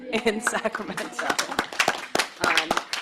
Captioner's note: applause